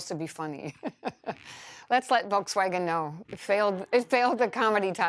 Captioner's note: laughs